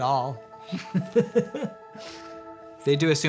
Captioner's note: laughs